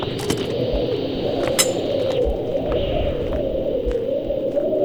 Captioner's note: wind blows